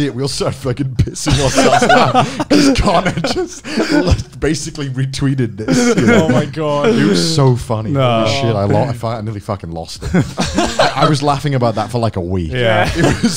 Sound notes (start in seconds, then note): 1.3 laughing